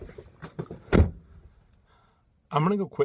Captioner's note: door closing